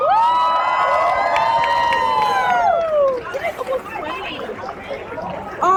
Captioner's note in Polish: Aplauz